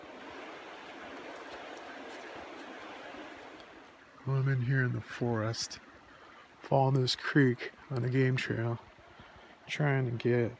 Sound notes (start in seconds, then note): 1.0 sound of creek